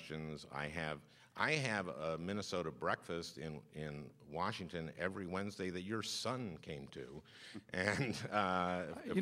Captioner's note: laughs